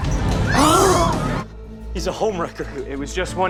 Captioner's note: clubgoers screaming